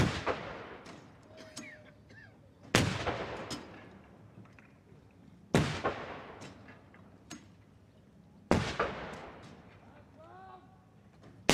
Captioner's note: gun salute